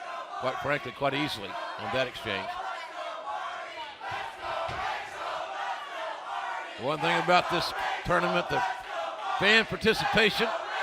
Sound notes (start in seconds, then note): 5.3 fans chanting